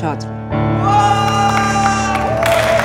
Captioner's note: Adhish hooting